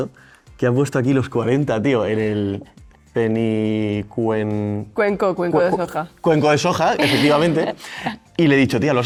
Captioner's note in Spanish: risas